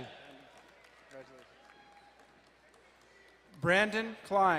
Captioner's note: crowd cheering and applauding